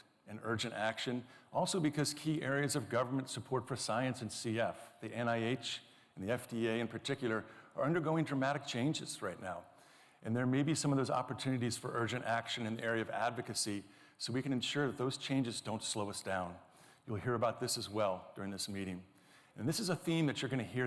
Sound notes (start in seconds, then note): none